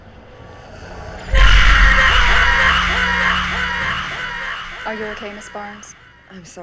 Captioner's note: Elizabeth screaming